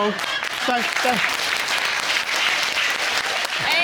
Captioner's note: stammering